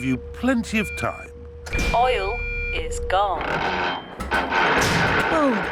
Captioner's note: creaking